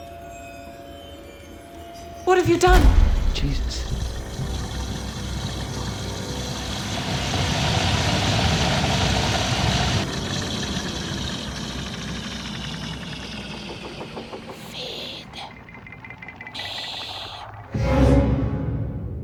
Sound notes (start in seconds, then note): 4.9 gurgling; 10.2 gurgling slows